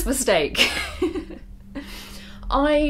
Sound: laughs

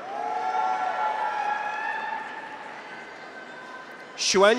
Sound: graduates cheer

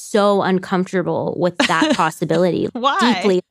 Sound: laughs

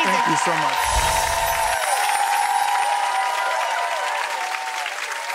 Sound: audience cheering and applauding

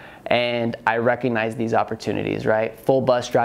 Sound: none

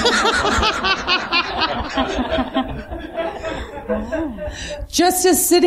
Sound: laughing

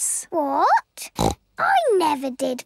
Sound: snorts

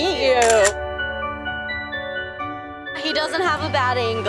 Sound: camera shutter sound

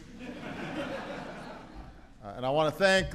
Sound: laughter

